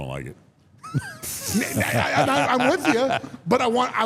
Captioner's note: Mark laughs